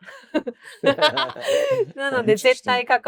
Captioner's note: group laughs